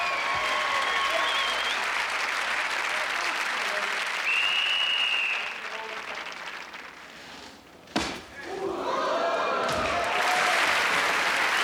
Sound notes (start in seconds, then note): 4.2 whiststlele blolowiw; 9.5 audieiencnce gaspinining